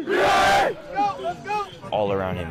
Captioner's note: cheering